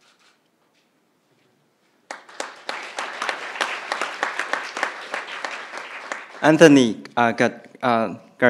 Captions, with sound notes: (crowd applauding) Anthony Gardella